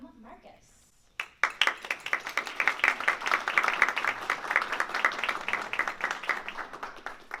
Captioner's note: applause